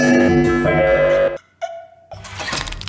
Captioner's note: more choking